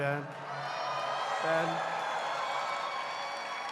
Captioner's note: applause